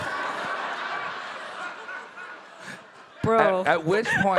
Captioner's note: audience laughing